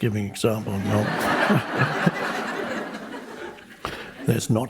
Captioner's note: people laughing